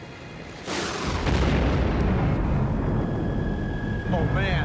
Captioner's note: explosion booms